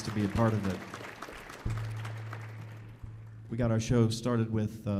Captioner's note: audience applauding